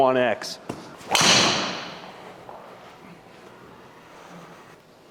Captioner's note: golf club hits ball